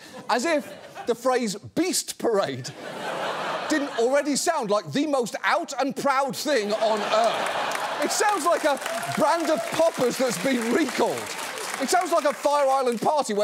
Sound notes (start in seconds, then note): 2.7 audience laughs; 6.7 audience laughs, applauds